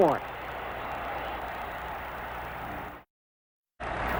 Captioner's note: crowd cheers